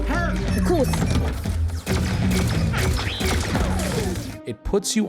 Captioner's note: guns firing